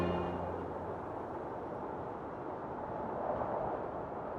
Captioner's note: wind blowing